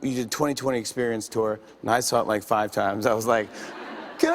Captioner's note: light laughter